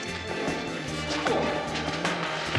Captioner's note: grunting